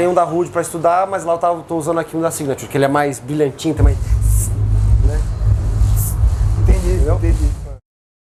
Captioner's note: imitates cymbal sound